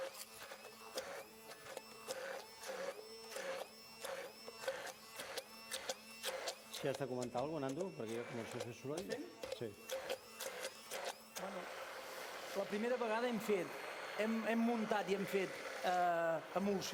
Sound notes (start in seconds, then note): 7.5 non-english speech